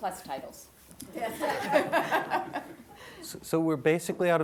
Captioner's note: audience laughs